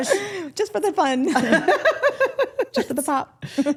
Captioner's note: group laughing